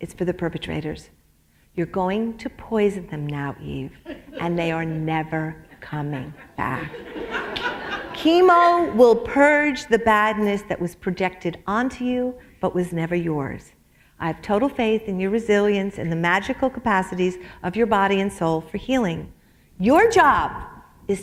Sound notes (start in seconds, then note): 6.8 laughter